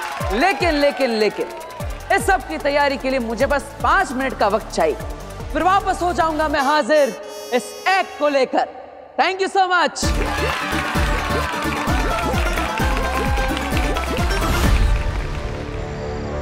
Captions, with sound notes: But! I need five minutes to prepare for the act. And I will return with this act. Thank you so much! [audience applauding] [tense music playing]